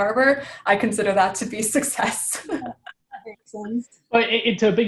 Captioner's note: laughs